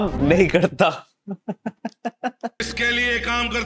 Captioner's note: laughing